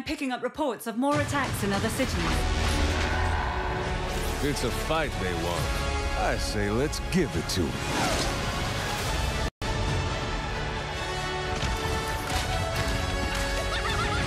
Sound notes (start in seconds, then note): 2.0 roaring; 13.6 laughing